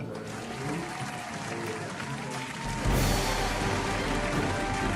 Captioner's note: applause